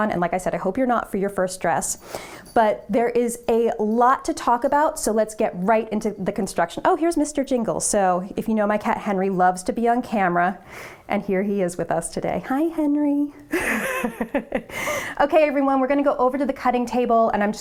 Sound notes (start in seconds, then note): 13.5 laughs